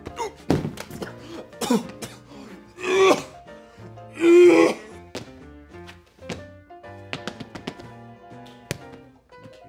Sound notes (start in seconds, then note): 0.2 grunts; 4.1 heaving